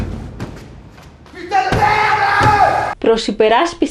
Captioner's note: screams